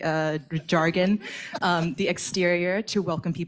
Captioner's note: audience laughs